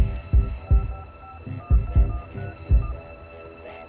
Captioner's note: buttons beeping